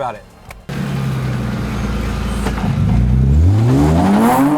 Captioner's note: engine revs